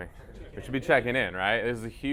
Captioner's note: crowd